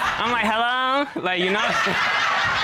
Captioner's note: in high-pitched tone